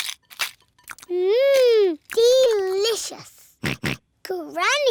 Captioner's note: george oinks